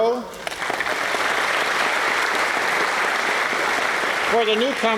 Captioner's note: applause